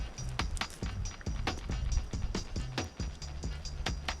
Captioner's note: moss crunching